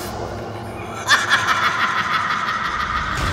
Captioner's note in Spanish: Risa malvada